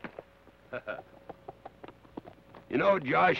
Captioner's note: Carney chuckles